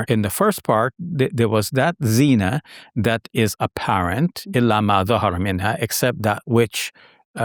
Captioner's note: speaking in Arabic